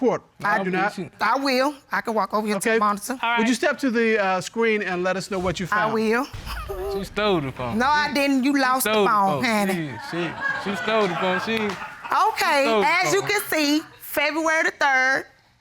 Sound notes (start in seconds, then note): 6.4 chuckles